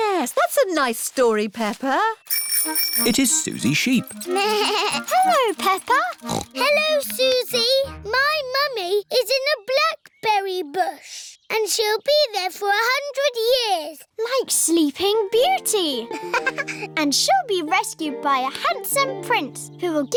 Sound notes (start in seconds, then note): 2.2 bell ringing; 6.2 bleats; 6.6 snorts; 16.0 laughs